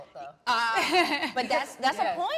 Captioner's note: laughing understandably